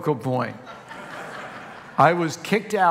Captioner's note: congregation laughing